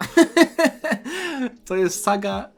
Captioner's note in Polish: śmiech; wciągnięcie powietrza